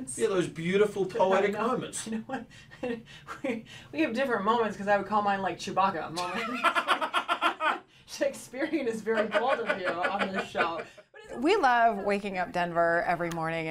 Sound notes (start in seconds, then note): 2.5 chuckling; 6.4 laughing heartily